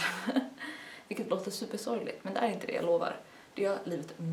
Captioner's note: nervous laugh